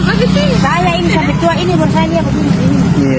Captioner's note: indonesian dialogue continues